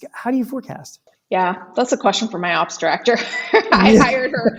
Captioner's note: laughs